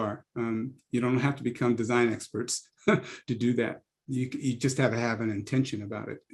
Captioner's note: laugh